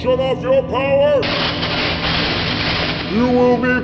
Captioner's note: electric zaps